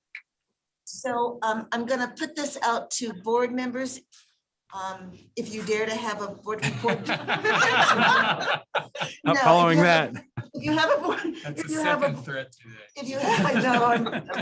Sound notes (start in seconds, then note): 8.3 laughter